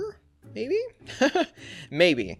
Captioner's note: laughs